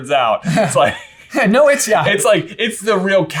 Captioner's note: both laughing